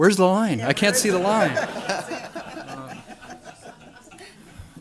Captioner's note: audience laughter